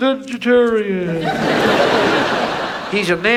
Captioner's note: audience laughs